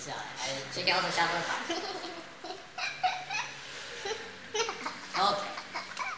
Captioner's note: laughing